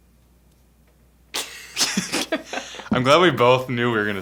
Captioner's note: laughing